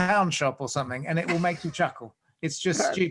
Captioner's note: laughs